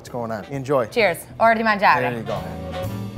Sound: speaks Italian

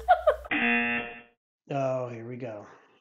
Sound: laughs; buzzer rings

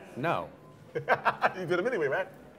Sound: laughter

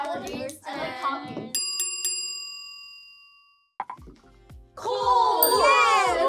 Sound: bell ringing

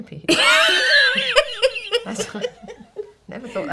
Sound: laughing

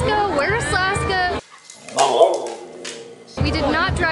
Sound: Laska sounds

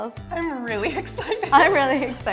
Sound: laughing

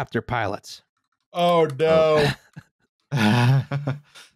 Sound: laughs

